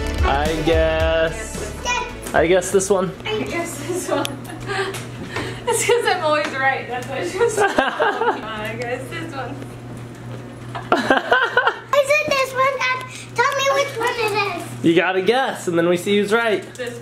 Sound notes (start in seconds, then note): 3.8 chuckles; 7.2 laughs; 10.7 laughs